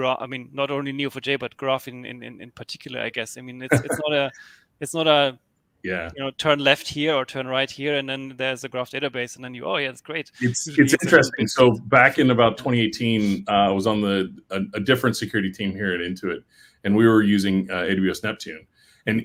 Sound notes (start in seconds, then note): 10.4 overlapping chatter